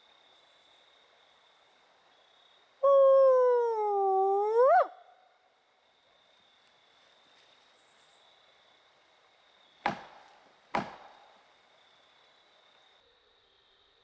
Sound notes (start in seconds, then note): 2.9 howling; 9.8 tree banging